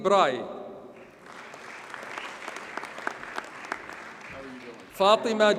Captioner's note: audience applauds